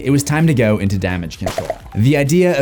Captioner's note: bubbles popping